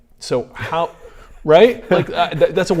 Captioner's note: laughs